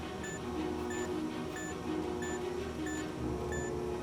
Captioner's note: beeping